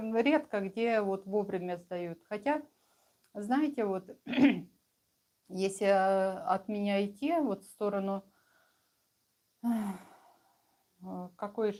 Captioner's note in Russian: откашливается